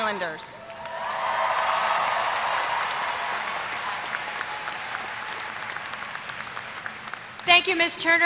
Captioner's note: applause